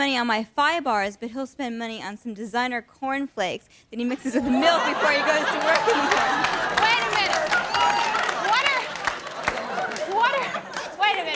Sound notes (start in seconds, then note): 6.6 audience laughs and claps